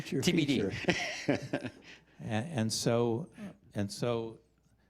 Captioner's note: chuckling